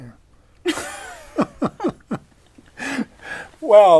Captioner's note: laughter